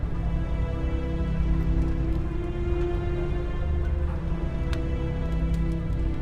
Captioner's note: crackling of fires